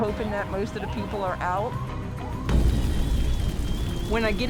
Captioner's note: fire roaring